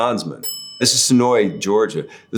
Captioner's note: bell dinging